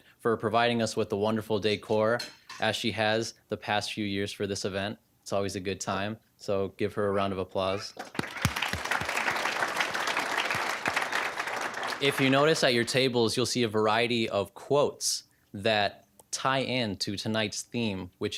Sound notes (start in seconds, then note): 8.0 applause